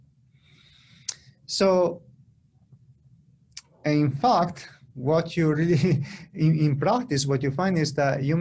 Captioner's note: laughter